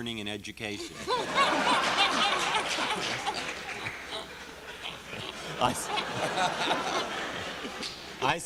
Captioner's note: laughter